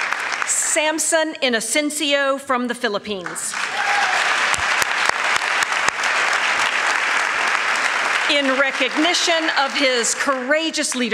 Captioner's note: applause